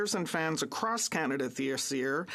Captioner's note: speaking French